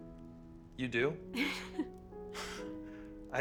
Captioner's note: laughs